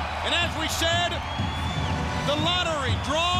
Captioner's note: crowd cheering